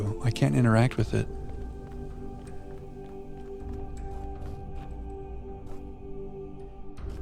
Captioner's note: footsteps